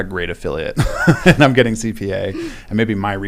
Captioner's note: laugh